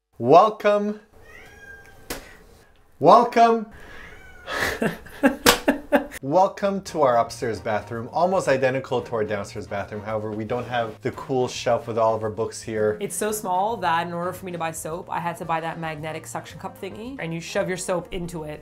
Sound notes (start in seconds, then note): 1.2 loud Meemers meowing; 3.8 more meowing